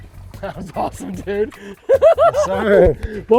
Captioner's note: fish splashing; laughs